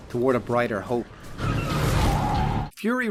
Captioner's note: tires screeching